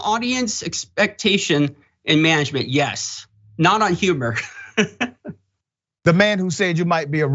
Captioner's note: laugh